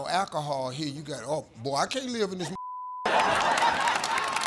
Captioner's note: beep; audience laughing